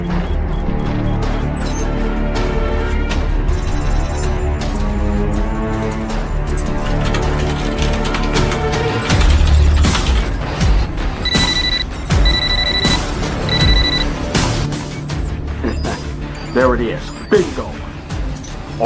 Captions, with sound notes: (keyboard clicking) (computer beeps) (Stealth laughs) There it is, bingo.